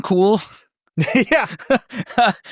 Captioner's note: laughs